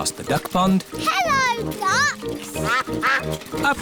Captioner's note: quacking